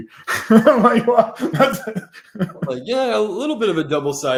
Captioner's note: laughs